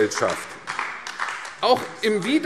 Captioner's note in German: Beifall AfD